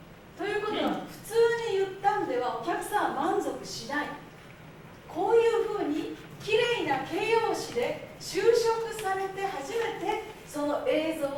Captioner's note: speaking Japanes